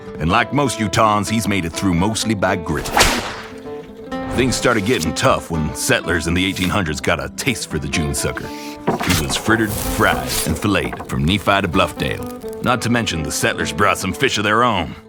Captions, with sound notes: And like most Utahns, he's made it through mostly by grit. (whip cracks) Things started getting tough when settlers in the 1800s got a taste for the June sucker. He was frittered, fried, and filleted from Nephi to Bluffdale. Not to mention the settlers brought some fish of their own.